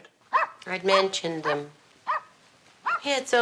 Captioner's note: dog barking